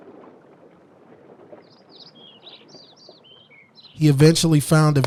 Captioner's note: birds tweeting